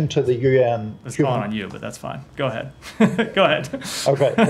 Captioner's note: laughter